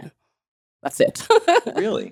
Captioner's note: laughing